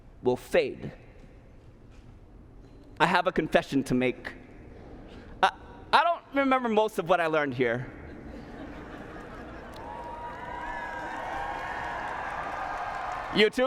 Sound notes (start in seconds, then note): 8.0 laughter; 9.2 cheers, applause